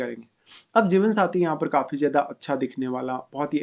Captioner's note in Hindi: नाक से की जाने वाली आवाज़